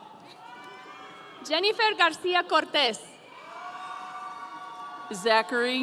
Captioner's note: audience cheering